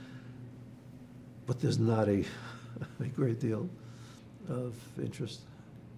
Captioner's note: laughing